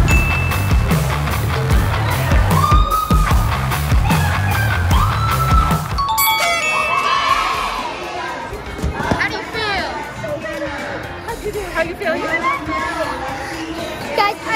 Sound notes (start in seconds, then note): 0.0 ding; 1.0 upbeat music; 2.3 mom cheering; 5.7 party horns honking